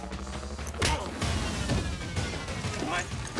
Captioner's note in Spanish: golpes